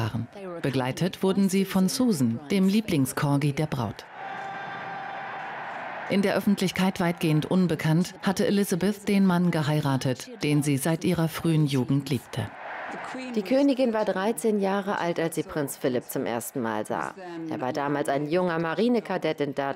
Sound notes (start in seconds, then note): 4.9 crowd cheering